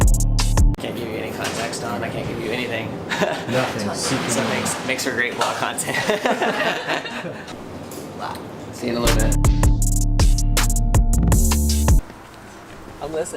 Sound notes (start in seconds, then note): 5.8 laughing; 5.8 laughs; 9.0 intense ambient techno